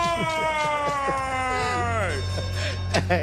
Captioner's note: bell dings; laughs